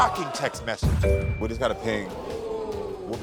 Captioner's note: phone pings